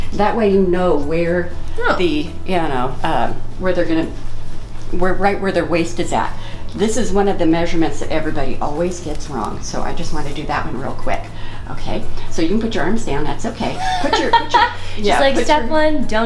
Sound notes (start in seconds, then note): 13.7 laughing